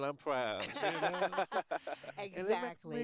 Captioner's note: all laugh